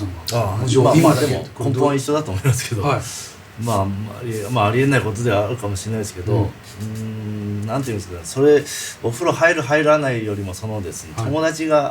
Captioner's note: laughs